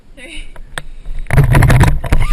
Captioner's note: yelling